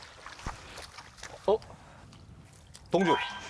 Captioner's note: clang